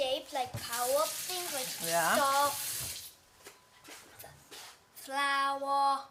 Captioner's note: rushing water drowns speaker